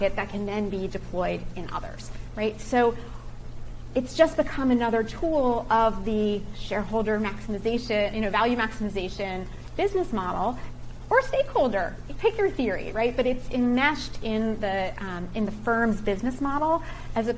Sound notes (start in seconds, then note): none